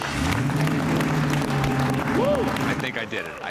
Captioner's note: engine turns; cheers and applause